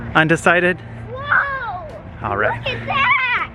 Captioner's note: shouting